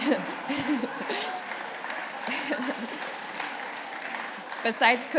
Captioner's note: laughter; applause